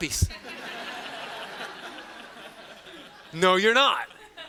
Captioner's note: students laughing